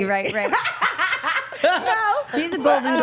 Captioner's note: everyone laughing